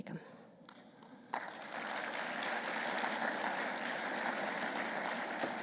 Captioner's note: audience applause